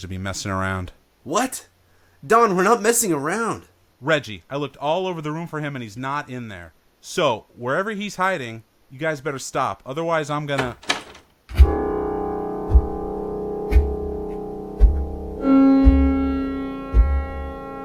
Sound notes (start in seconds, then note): 10.6 door opening; 14.7 suspenseful music